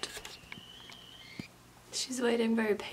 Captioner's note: whistling